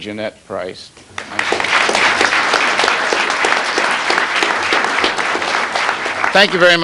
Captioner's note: applause